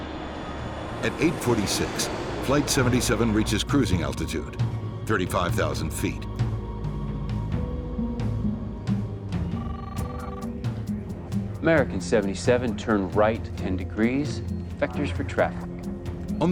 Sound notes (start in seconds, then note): 9.4 phone rings